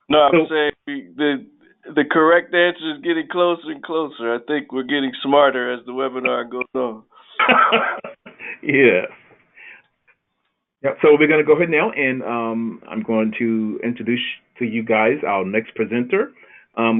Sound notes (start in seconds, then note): 7.3 laughing